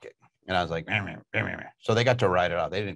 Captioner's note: grumbling